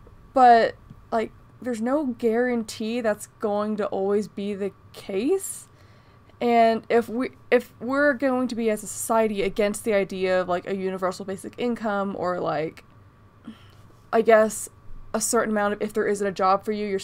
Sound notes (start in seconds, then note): none